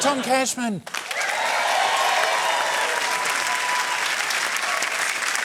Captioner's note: cheering, applause